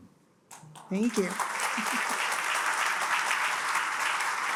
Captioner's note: attendees applaud; chuckles